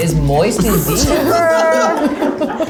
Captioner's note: laughter